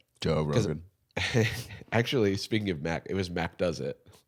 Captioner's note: laughs